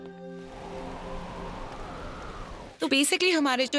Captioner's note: Wind blowing